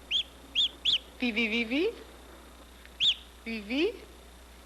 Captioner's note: gosling Chirping, Researcher Responding